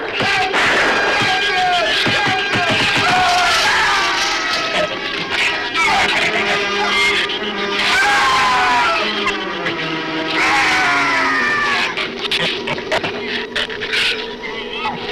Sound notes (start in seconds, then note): 3.0 Rook screams; 4.6 shrews snarl; 7.6 Rook screams; 12.2 shrews snarl